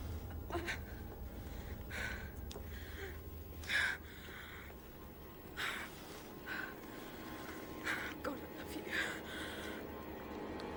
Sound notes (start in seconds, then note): 0.0 tense music intensifies; 3.4 Louise gasping